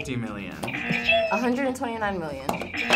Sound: buzzer; buzzer rings

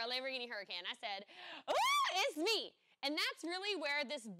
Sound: screams

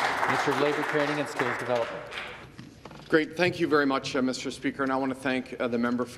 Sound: some Applause

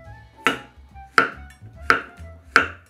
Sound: knife cutting

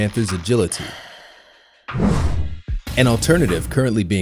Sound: sighs

